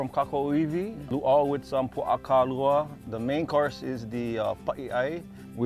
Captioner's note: speaking Hawaiian